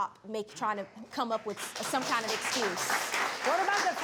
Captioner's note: audience clapping